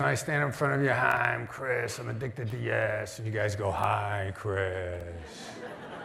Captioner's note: laughter